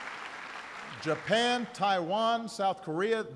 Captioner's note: applause